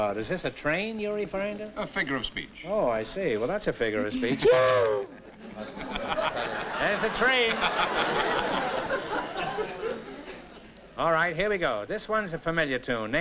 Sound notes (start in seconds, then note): 4.5 imitates train whistle; 7.7 laughter